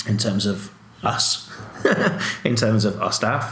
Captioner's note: laughs